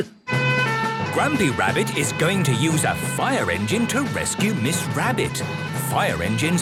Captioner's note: sirens